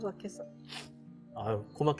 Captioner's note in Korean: 훌쩍